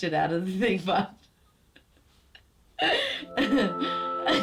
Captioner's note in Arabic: يضحك